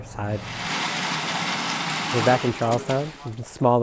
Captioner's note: concrete pouring